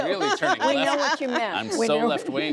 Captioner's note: laughter